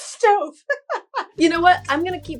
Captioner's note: laughs